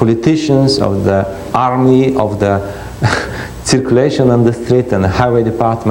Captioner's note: laughs